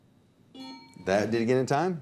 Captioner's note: bell ding; buzzer beep